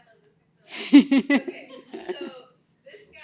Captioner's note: laughter